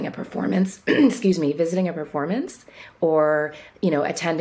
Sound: clears throat

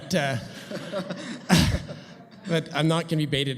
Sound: audience laughs

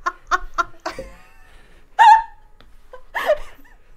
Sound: laughing

